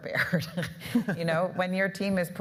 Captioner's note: laughing